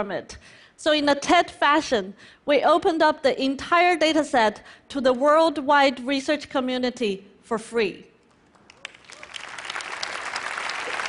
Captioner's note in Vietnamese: Vỗ tay khí thế